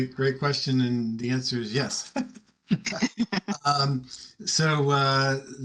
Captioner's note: laughs